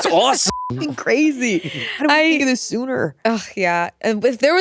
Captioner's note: beep